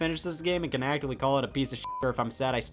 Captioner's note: beeps